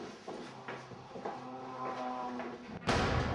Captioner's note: humming; banging